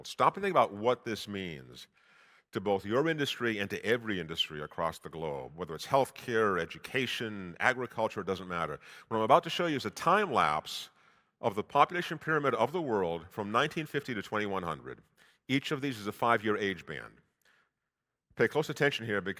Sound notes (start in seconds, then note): none